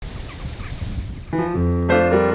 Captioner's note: wind blowing; birds tweeting; lively music